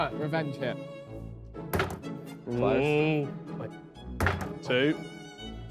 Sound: bottle clanking

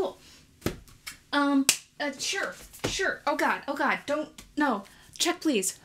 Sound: claps hands

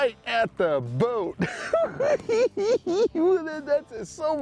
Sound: cackling

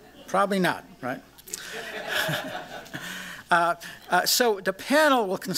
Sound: laughter

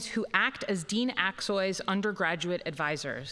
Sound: none

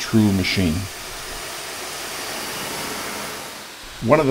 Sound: machine noise

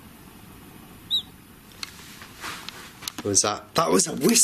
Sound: man whistles

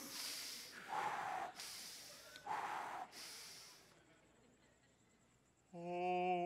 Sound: breathing deeply

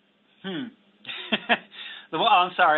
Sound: laughs

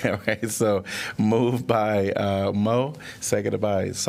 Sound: laughter

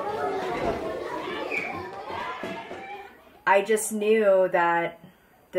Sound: kids talking and laughing

